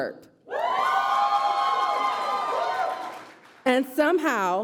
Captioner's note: applause